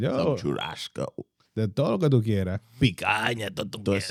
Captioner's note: speaking In Foreign Language